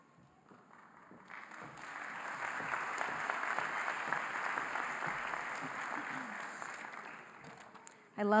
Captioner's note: applause